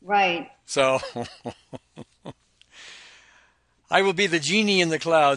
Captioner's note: laughs